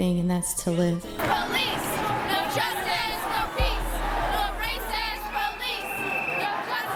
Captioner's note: crowd Chants